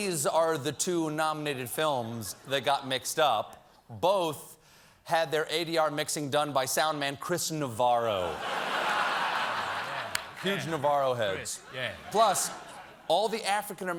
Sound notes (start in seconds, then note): 5.1 laughter